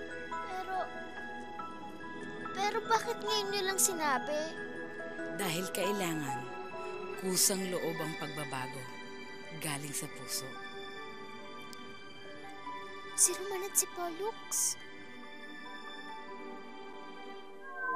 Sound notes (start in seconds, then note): none